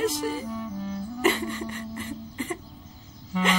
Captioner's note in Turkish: Ağlıyor